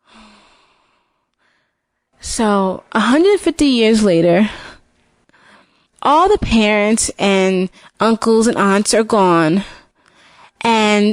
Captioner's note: sigh